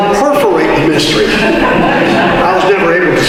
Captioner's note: audience laughter